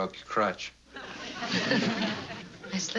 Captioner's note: laughs